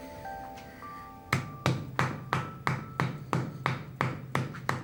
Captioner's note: brush thudding